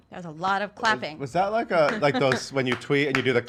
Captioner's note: clapping